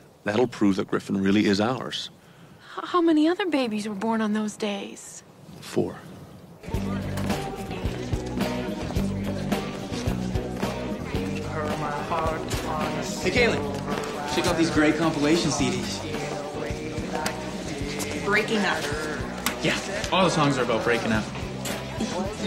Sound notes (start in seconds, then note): 7.7 students chattering; 7.7 upbeat music